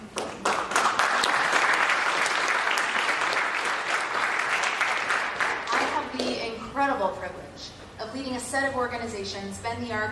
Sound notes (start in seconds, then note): 0.0 applause